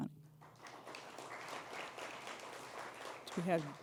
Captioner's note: applause